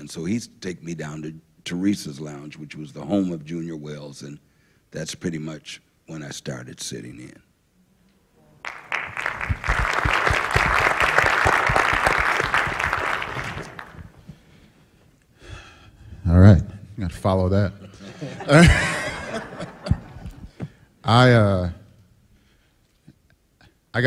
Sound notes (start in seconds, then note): 8.6 applause; 21.8 laughter